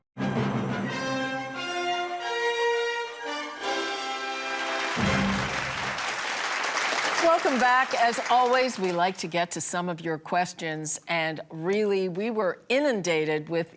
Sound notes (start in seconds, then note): 0.2 theatrical music; 3.7 audience applauding